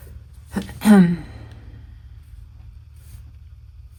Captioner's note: coughs